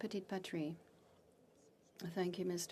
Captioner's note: speaking FRENCH